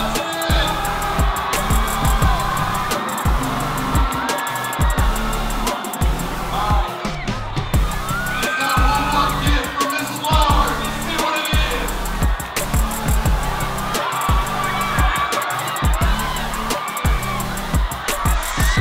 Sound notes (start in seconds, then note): 1.2 cheering